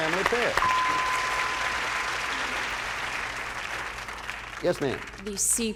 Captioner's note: applause; bell rings